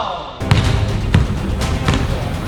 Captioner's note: ball bounces; upbeat orchestral music